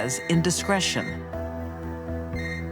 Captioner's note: cellphone rings